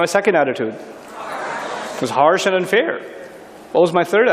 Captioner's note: people shouting "it's harsh"